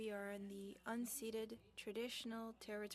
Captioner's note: speaking French